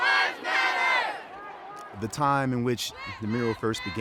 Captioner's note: large crowd chanting: <i>Black Lives Matter